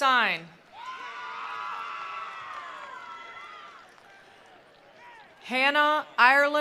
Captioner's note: attendees applauding; attendees cheering